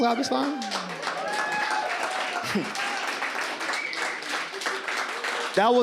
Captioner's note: audience cheers and claps